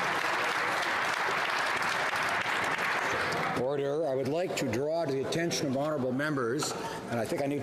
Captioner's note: some Applause